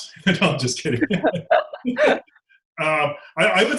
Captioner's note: laughing